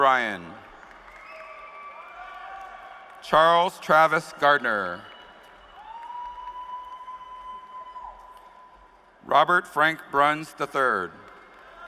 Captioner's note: cheers and applause